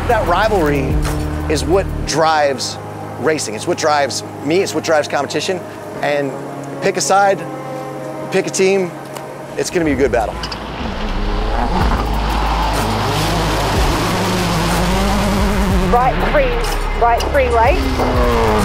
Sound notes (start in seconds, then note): 13.7 gravel sprays; 15.2 car engine revs; 18.4 car engine revs